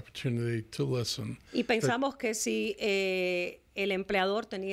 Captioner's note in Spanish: Hablando ingl\s